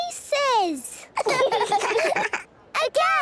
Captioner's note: children laughing